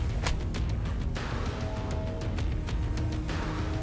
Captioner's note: blow thudding